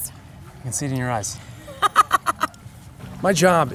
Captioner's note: laughs